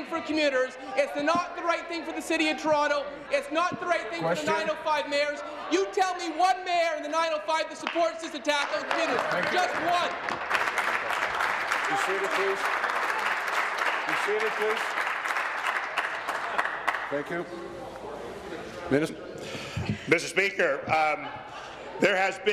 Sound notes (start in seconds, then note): 17.9 applause